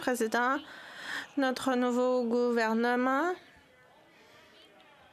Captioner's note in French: voix de l'interprète